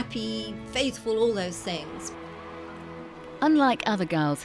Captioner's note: crowd cheering